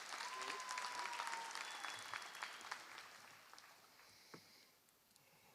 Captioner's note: applause; cheering